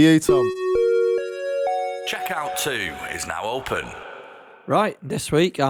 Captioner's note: chime